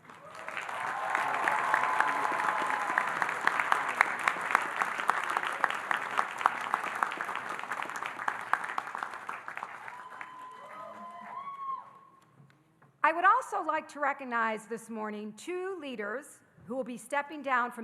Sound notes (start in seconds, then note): 0.2 audience applauding and cheering; 9.6 audience cheering